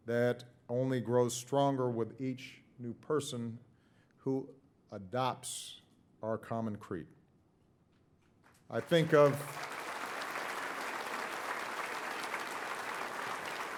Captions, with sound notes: that only grows stronger with each new person who adopts our common creed. (audience applauding) I think of,